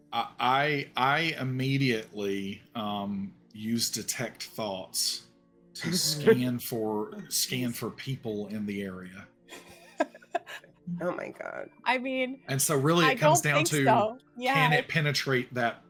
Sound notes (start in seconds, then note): 9.5 laughing